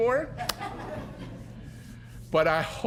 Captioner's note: audience chuckling